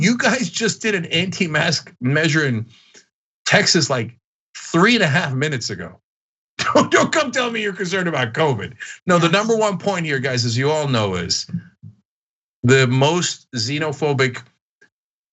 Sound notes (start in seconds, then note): 6.6 laugh